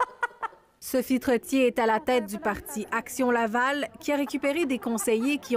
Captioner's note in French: rires